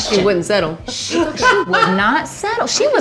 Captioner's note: laughs